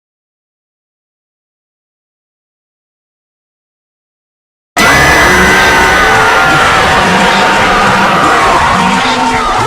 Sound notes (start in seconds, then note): 4.8 screaming